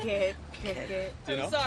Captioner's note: laughing